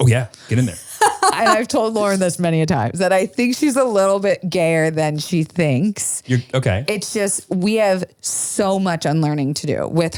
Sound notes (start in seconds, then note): 0.6 laughs